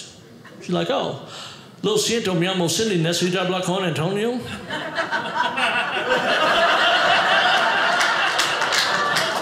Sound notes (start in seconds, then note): 1.7 speaking Spanish; 6.7 audience laughing